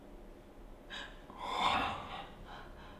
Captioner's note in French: James respire fort